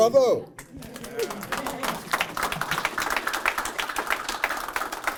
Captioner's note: applause